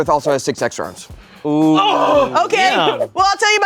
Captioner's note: groans